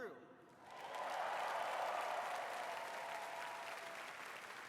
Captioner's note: applause